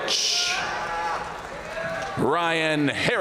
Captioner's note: audience cheering and applauding